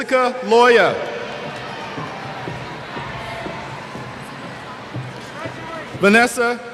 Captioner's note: cheers